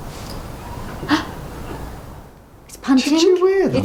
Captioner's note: gasps